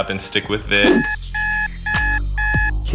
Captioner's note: alarm clock blaring